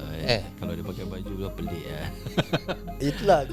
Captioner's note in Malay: ketawa